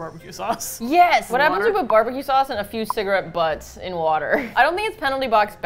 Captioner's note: laughs